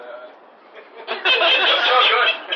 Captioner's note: laughter